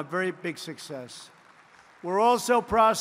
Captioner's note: applause